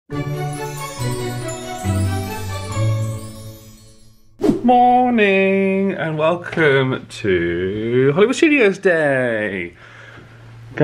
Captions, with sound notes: (magical intro music) (screen wipe whooshes) - Moooorning! And welcome to Hollywood Studios Day.